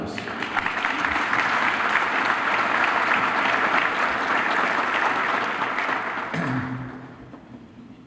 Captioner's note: applause